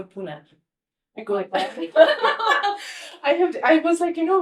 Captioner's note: laughs